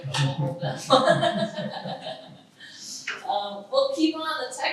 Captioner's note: all laugh